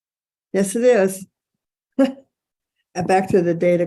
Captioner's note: person chuckling